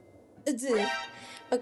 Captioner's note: shocked noise